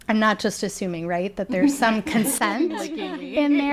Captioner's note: people laughing